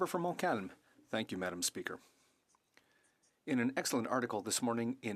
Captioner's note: speaking French